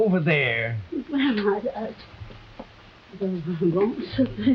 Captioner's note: Veta muttering